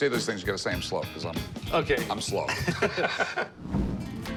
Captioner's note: laughing